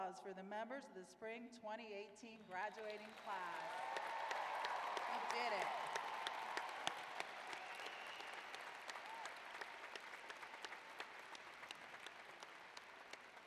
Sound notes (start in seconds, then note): 3.6 applause